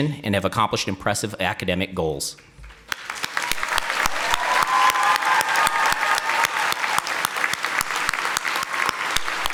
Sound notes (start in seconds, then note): 2.8 audience applauding